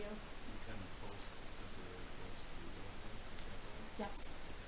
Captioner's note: man speaking